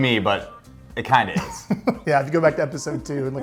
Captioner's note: laughs